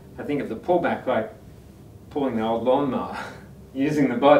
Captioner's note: laughs